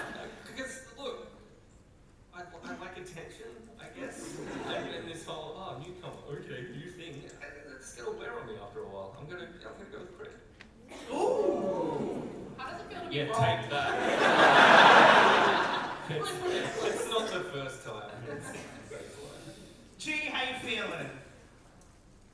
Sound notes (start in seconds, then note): 11.0 audience oooh; 13.7 audience laugh